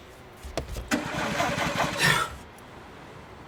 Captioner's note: car engine cranking; Jack sighs